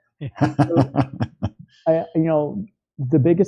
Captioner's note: laughs